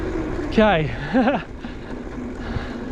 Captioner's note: laughs